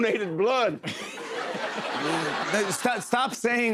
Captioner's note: laughter